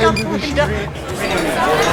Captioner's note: laughing